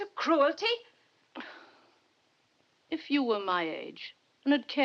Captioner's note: sighs